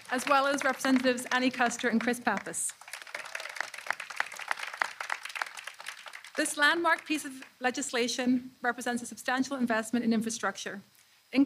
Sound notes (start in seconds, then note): 3.2 applause